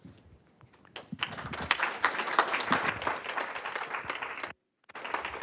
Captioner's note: audience applauding